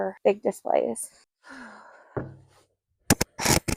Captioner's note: sigh